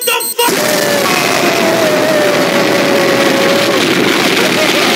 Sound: kaboom!

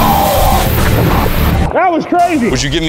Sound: excited cheering

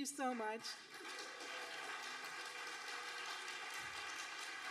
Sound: audience applauding

